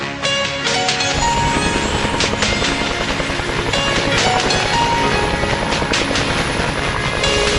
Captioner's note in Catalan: So enlairament de l'helicòpter